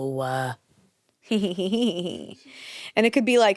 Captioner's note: giggles